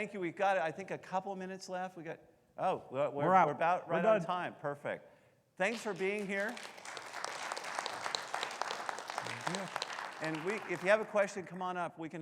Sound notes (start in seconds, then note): 5.7 audience applauding